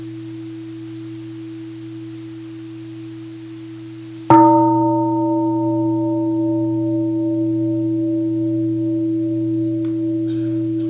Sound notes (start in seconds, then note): 4.3 gong